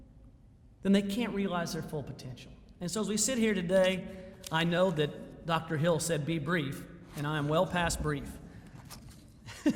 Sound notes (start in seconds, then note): 9.4 chuckling